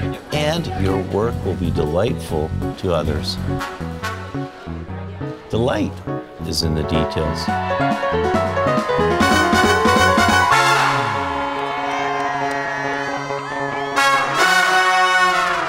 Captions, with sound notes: And your work will be delightful to others. Delight is in the details. (jazz music continues) (students cheering)